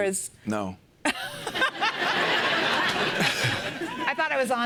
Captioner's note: laughter